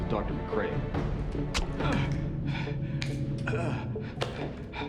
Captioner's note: guard groaning